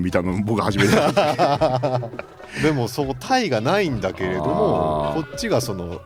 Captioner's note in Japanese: 笑い